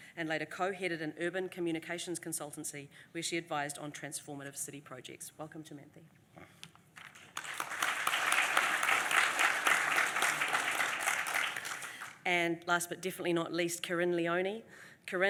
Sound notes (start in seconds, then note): 6.9 applause